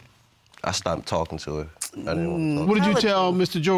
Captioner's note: clicks tongue